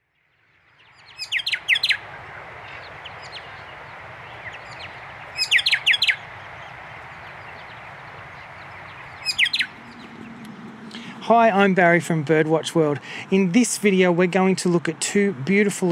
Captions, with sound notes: [bird chirping] Hi. I'm Barry from Birdwatch World. In this video, we're going to look at two beautiful